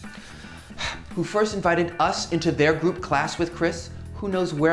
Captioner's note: sigh